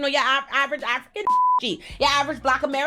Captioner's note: beep